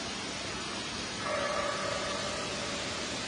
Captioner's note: eerie barking